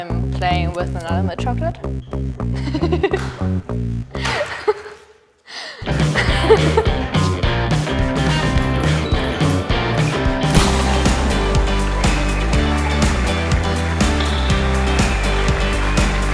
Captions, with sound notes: - I'm... playing with another of my chocolate. (laughs loudly) (loud cheering)